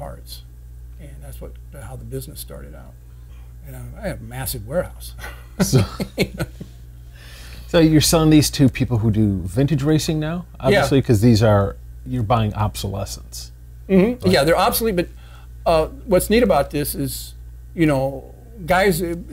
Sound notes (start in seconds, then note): 5.2 men laughing